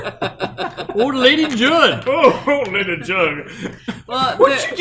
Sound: imitating southern accent

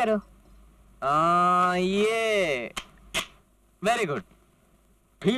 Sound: camera clicks

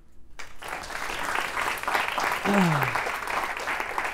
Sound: applause

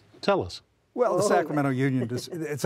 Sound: laughter

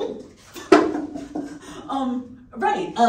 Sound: cup clatters

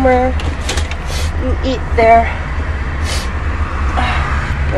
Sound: sniff

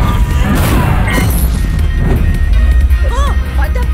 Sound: electronic ticking

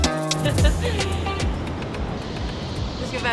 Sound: laughter

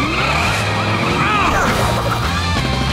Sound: grunting

